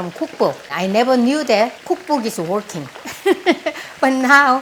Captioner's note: laughs